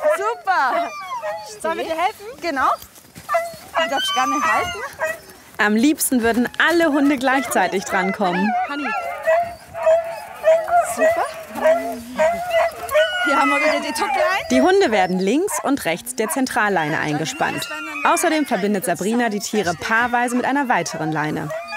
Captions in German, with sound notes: Sollen wir dir helfen? - Genau. (Winseln, Bellen) Du darfst sogar noch halten. Am liebsten würden alle Hunde gleichzeitig drankommen. (Lautes Winseln und Bellen) Super! Hier haben wir wieder die Leine. Die Hunde werden links und rechts der Zentralleine eingespannt. Außerdem verbindet Sabrina sie paarweise mit einer weiteren Leine.